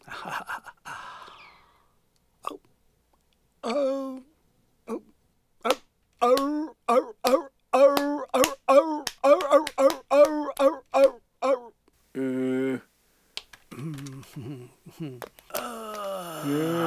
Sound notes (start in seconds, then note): 0.1 laughing; 6.1 barking and clapping like a seal